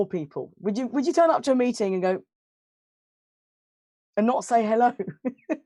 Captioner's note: silence